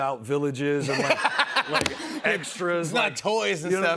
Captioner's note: laughs